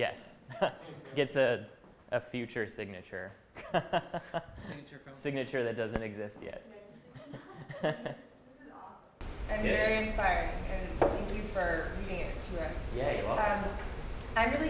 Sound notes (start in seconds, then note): 3.6 laughing